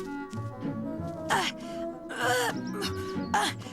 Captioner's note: grunting